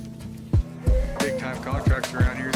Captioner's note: bull bellows